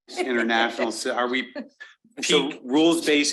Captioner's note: chuckling